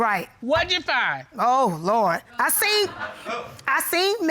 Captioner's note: audience laughs